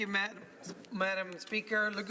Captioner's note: speaking French